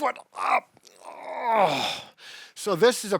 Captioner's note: groaning